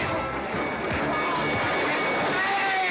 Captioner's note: train bell ringing